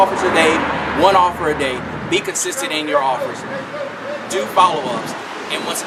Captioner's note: loud car